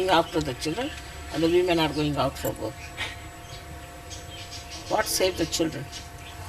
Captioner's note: shree mataji laughs